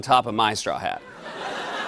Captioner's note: laughter